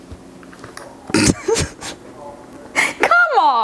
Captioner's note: laughs